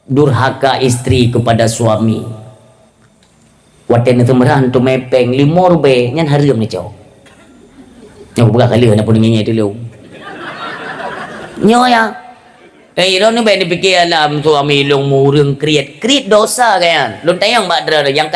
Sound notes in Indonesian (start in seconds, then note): 10.0 tertawa